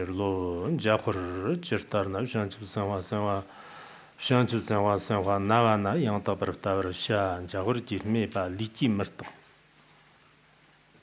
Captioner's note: giving oral transmission in Tibetan